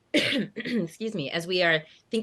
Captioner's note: clears throat